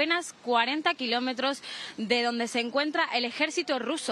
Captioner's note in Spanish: AUDIO EN INGLéS